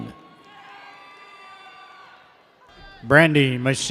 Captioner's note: audience cheers